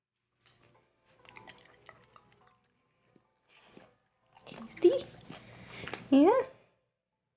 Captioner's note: dog eating